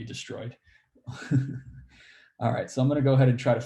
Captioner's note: laughs